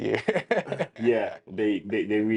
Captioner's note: laughing